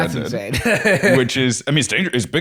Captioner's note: laughs